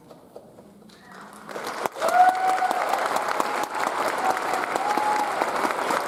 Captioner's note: audience cheers and applauds